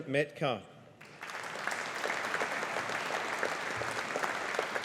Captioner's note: audience applauding